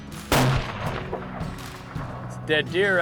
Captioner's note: gunshot